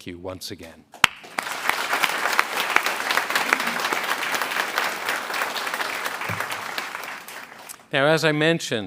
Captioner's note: a pplause